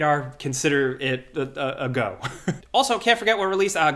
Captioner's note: laughs